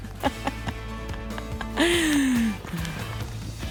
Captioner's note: laughing; upbeat music